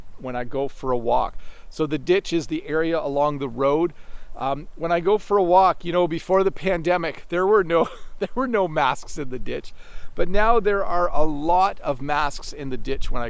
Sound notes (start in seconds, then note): 7.6 chuckles